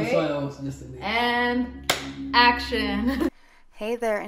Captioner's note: claps